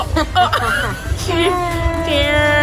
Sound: laughing

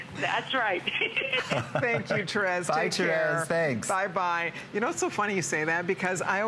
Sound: laughter

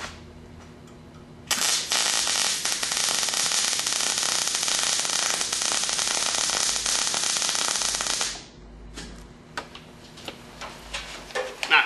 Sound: welding

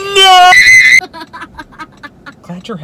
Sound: screaming; laughing

